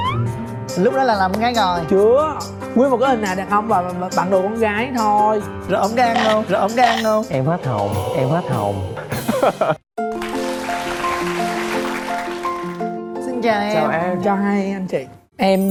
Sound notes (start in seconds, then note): 10.0 applause